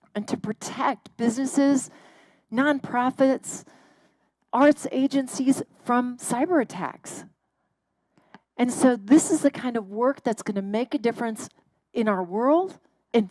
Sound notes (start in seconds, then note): none